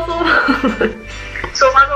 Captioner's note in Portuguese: risadas